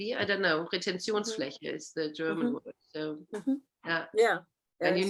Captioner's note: speaking german